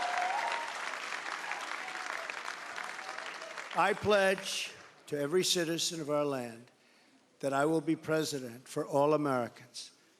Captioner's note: cheering